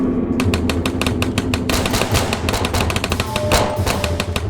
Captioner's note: gunshots firing